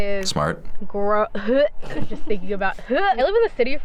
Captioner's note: gags